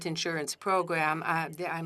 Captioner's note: speaking French